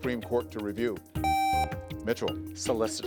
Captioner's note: contestant beeping